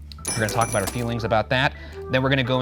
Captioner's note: bell rings